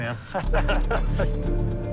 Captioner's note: both laughing